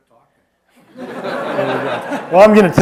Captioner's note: laughter